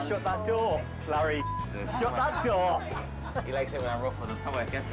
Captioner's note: beep